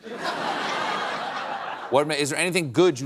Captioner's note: laughter